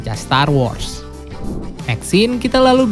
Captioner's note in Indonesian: suara transisi